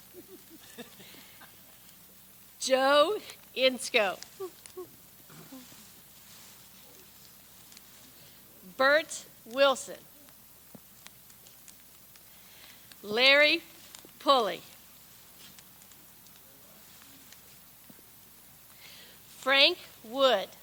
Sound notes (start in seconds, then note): 0.0 people laugh; 4.3 laughs; 4.3 chuckles